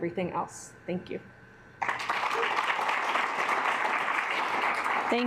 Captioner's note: assembly clapping